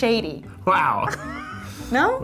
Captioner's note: laughs